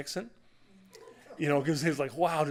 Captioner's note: laughter